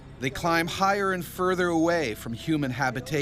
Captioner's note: voiceover